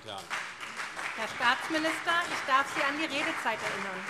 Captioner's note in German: Heiterkeit und Beifall CDU und SPD